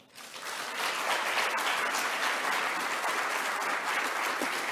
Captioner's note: audience applauding